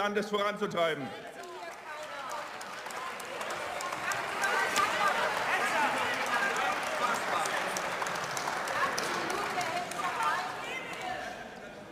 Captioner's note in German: Beifall und Zwischenrufe